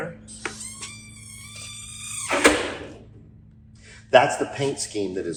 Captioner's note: door creaking